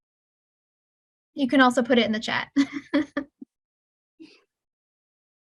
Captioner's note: laughing